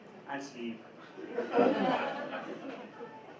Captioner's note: laughter